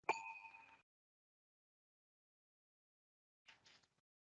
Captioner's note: bell rings